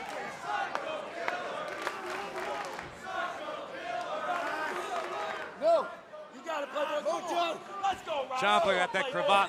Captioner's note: fans chanting